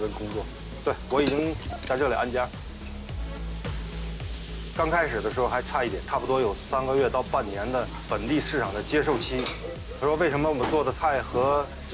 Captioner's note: speaks chinese